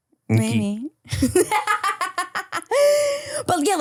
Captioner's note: laughs